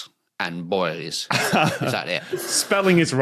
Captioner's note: laughs